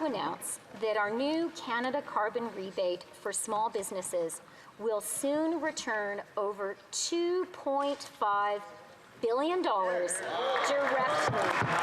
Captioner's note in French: applaudissements; voix de l'interprète